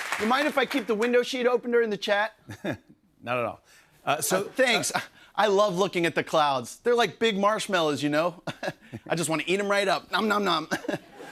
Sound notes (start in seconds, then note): 2.5 chuckles